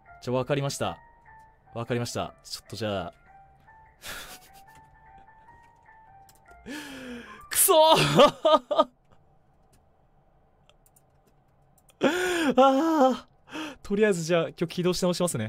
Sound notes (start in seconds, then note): 7.6 cries; 12.0 inhales